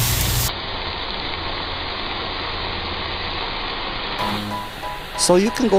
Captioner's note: fire Sizzling